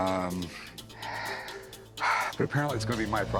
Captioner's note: sighs